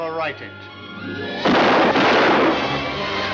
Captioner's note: two Gunshots